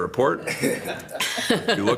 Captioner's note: members laughs